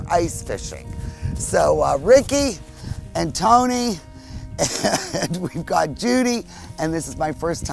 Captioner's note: laughs